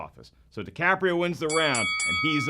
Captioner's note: dinging